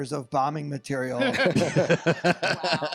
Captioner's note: all laughing